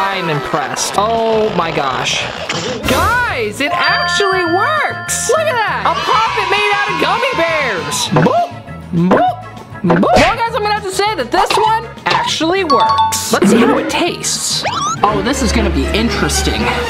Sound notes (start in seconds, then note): 9.0 comical mouth noises